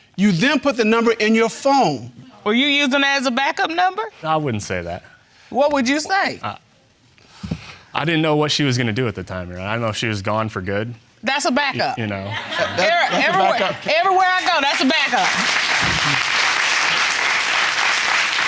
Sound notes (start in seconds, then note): 12.3 laughter